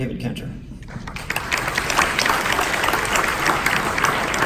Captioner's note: audience applause